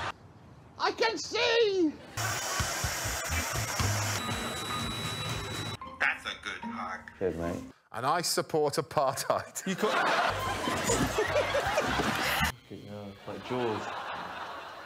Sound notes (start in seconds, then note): 8.1 imitating alex